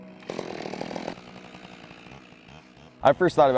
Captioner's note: chainsaw buzzing